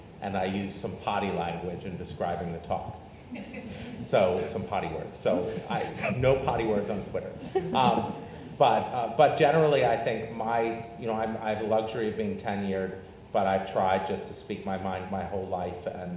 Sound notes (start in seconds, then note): 3.4 audience laughs; 7.3 panelists laugh